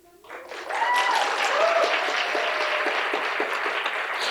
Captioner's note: cheering